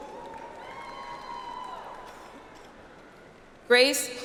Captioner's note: audience applauds